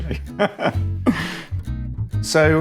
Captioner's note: laughing